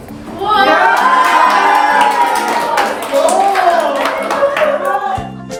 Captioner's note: everyone exclaims